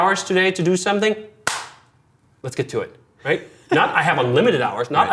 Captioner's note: hands clap